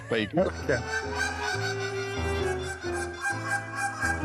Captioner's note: overlapping duck calls